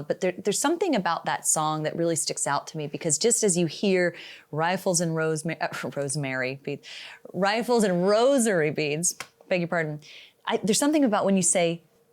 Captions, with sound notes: But there's something about that song that really sticks out to me, because just as you hear, "Rifles and Rosemary," uh, (scoffs) rosemary, "Rifles and Rosary Beads," I beg your pardon, there's something about when you say,